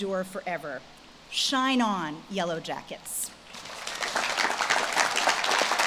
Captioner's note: audience claps